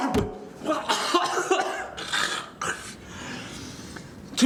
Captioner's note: coughing